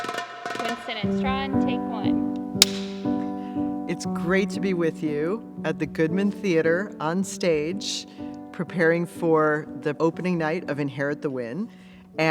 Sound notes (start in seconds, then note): 2.6 clapboard claps; 2.6 clapper